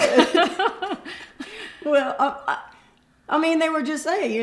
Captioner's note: laughter